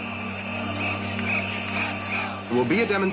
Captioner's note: crowd noises